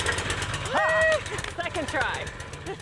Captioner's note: engine revving